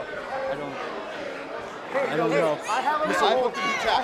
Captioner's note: crowd chatter